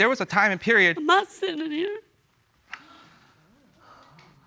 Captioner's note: sobbing